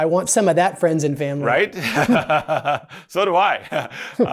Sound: laughs

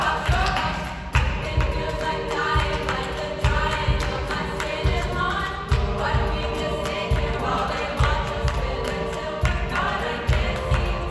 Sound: voices

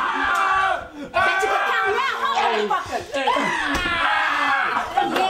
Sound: screaming

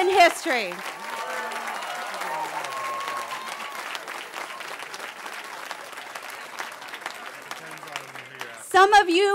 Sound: cheering

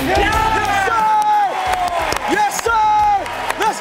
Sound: cheering

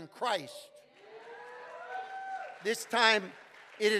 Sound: congregation cheering

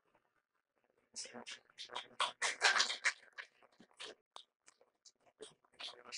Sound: applause

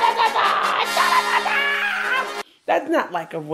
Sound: intense screeching

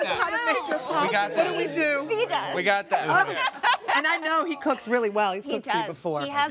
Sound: laughter

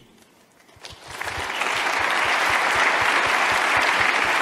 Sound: applauding

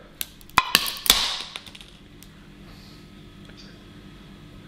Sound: plastic breaks

